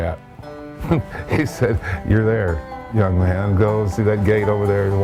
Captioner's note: laughs